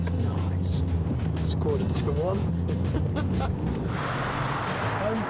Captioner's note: laughs